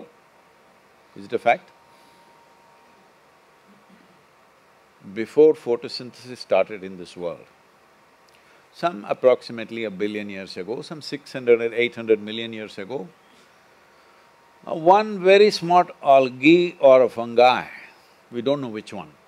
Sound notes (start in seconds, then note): none